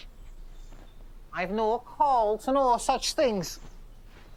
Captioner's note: in the voice of Bill